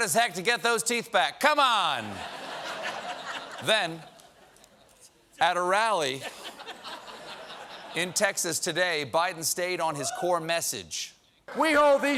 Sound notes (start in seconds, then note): 6.1 laughter